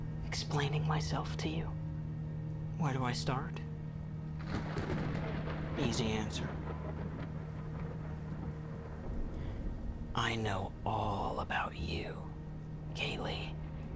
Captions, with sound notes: explaining myself to you. (tense electronic music) Where do I start? (thunder rumbling) Easy answer. (inhales) I know all about you, Kaylee.